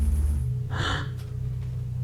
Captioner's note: exhale